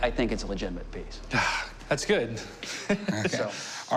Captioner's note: chuckling